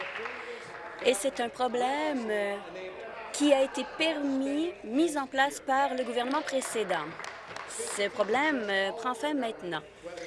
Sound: applause

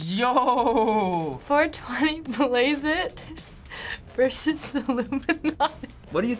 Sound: laughing

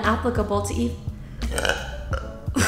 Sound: burp

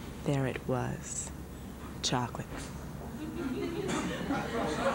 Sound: laughter

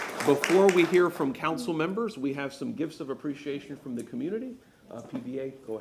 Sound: applause

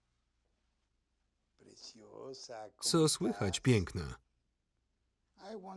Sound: speaking foreign language

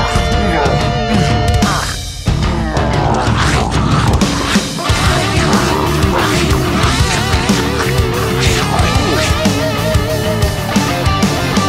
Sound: allosaurus grunting, growling and chomping

